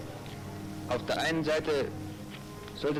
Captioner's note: in German